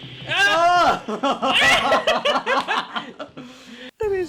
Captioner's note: laugh